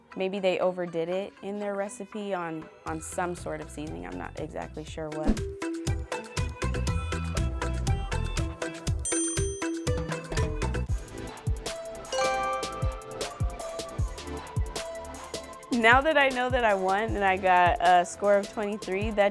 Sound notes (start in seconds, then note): 5.3 upbeat music; 9.0 dinging; 10.0 upbeat music; 12.1 chiming; 13.6 upbeat music